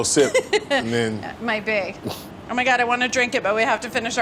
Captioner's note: laughs